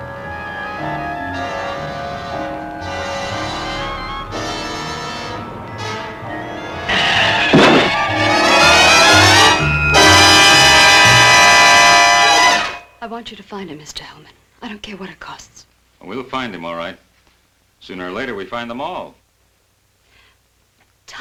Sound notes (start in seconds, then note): 6.3 crashing; 6.9 car screeching